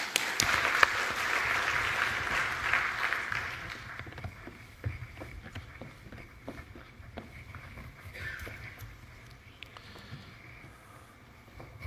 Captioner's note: applause